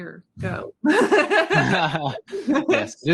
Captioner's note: both laughing